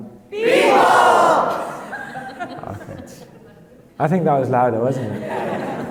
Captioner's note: laughing; laughing